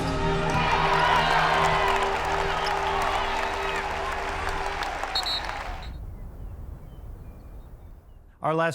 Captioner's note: audience cheers